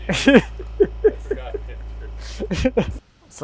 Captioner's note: both laughing